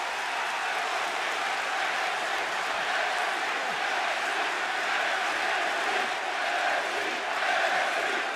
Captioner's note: cheers and applause; fans chanting